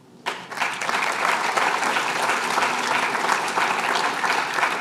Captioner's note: applause